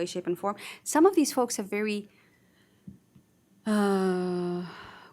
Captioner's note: sighs